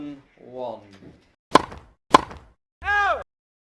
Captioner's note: ball hit